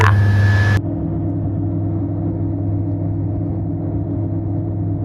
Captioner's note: plane engine whirring